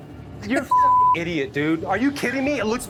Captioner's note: beep